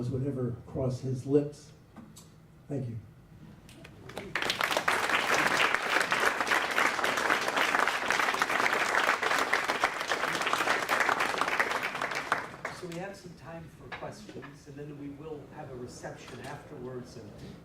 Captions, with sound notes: would never cross his lips. Thank you. [APPLAUSE] So we have some time for questions and then we will have a reception afterwards.